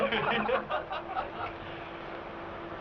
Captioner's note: laughing